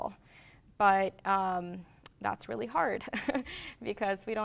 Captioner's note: chuckles